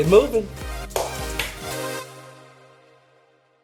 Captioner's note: clapping